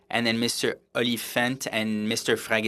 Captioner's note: speaking French